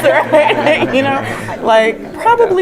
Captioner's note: laugh